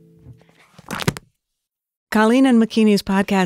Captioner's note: book thudding